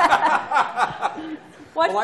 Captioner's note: laughter